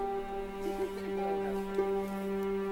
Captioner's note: laughing